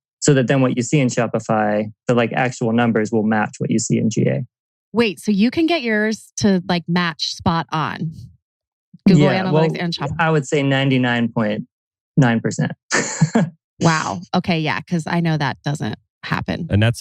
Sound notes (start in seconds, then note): 9.1 laughs